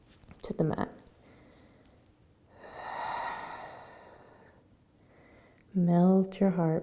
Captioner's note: breathing